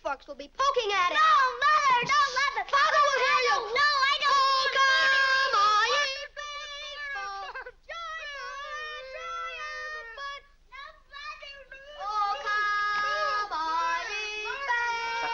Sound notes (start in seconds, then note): 2.6 kids screaming at each other; 9.6 shouts muffled